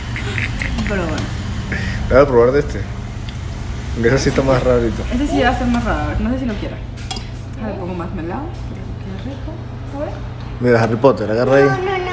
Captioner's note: laughs